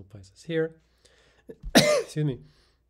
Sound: instructor coughs

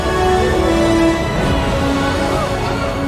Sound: all gasping

